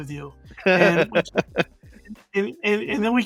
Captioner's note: laughs